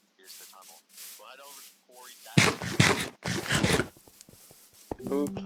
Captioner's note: interrupted by munching